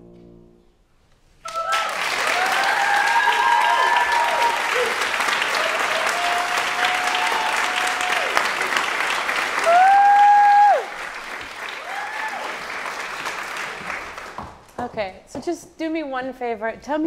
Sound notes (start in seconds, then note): 1.5 audience applauding